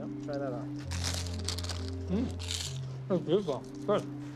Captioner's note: crunching